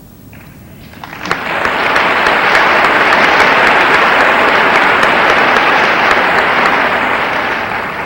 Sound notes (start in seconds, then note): 0.7 audience applauding